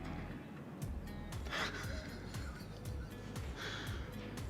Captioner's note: laughs